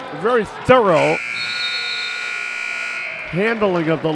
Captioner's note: buzzer sounds